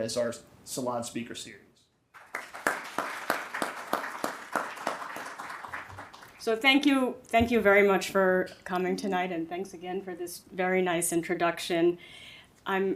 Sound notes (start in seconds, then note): 2.1 audience applauding